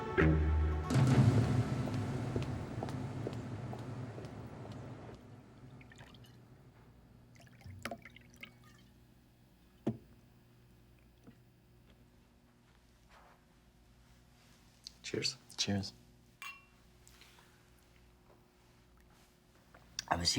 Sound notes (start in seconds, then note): 1.7 heels clack; 7.3 liquor trickles; 16.4 glasses clink